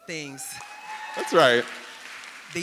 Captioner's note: audience cheering and applauding